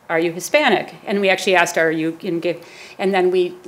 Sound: stammers

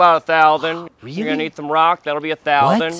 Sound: gasps

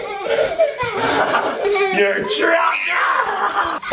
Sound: children laughing; person breathing heavily; children screaming

